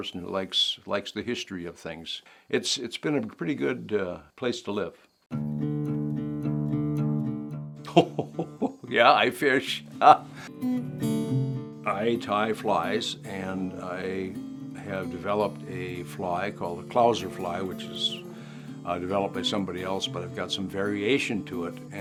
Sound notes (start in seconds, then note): 7.8 laughing